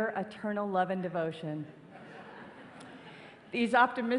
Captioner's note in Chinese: 笑聲